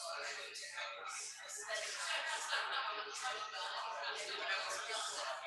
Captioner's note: people chattering indistinctly